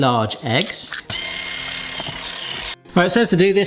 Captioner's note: whisk whirring